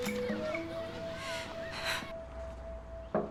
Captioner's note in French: soupirs